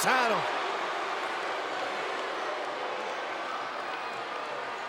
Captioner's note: crowd boos